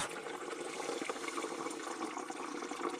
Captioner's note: water rushing